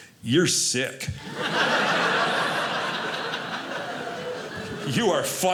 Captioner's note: audience laughing